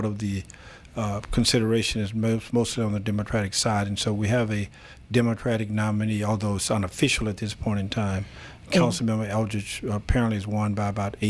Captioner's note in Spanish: Habla en ingl\s